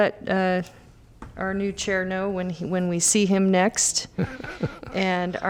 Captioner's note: laughter